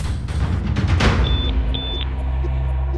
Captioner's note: two high-pitched beeps